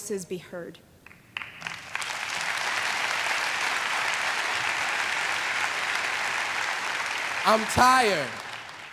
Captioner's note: applause